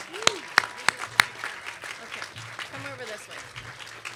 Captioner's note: applause; clapping